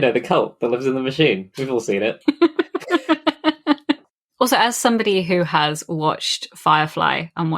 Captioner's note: laughs